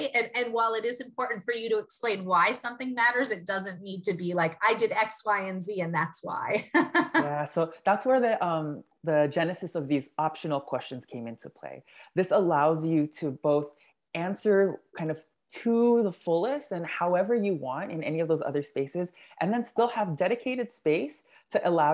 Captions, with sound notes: And while it is important for you to explain why something matters, it doesn't need to be like I did X, Y and Z and that's why. [LAUGH] >> So, that's where the, the genesis of these optional questions came into play. This allows you to both answer kind of to the fullest and however you want in any of those other spaces, and then still have dedicated space to allow that